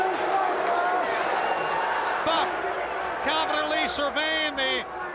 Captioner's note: crowd cheering